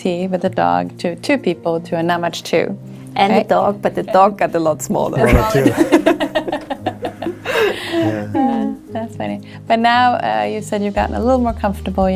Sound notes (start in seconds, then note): 7.8 laughs